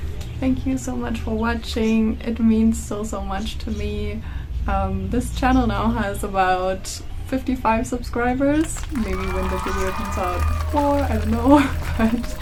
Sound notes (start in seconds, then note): 8.5 cheers